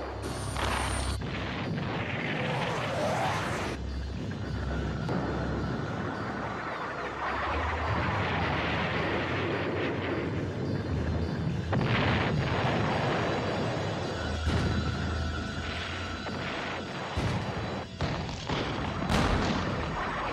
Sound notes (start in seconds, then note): 0.2 tanks firing; 8.5 explosions booming and echoing